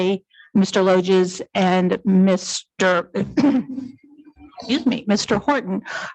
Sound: clears throat

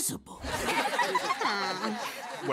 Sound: laughing

